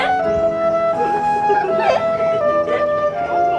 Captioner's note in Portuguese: Crianças rindo